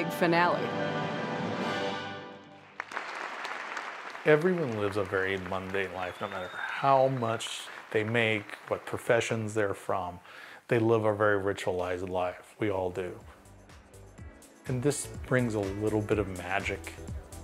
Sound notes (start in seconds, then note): 0.5 orchestral fanfare swells; 2.6 applause